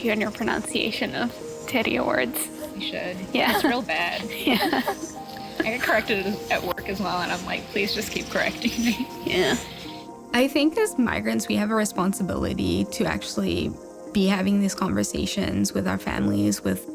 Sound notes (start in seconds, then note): 3.4 both chuckle